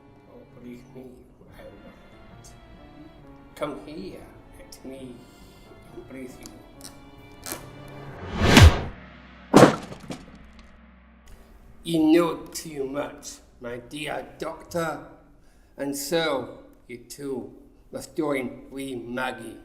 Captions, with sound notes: Oh, believe me, I won’t… Come here, let me embrace you… [The sound of a punch and a body falling] You know too much, my dear Doctor. And so, you too, must join Wee Maggie!